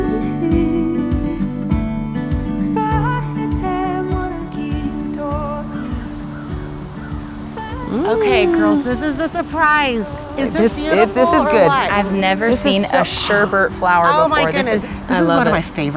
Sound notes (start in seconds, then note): 1.4 gentle, flowing music; 5.5 birds cawing